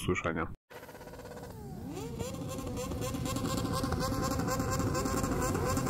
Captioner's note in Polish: ryk silników